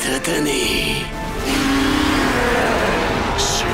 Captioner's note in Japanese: クラーケンのうなり声